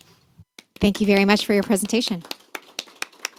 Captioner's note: applause